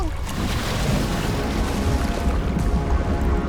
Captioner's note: water splashing; eerie suspenseful music